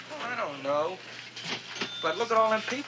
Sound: cash register ringing

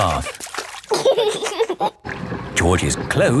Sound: giggling

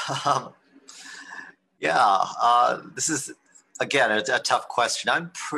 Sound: chuckles

